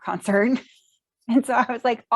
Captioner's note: chuckles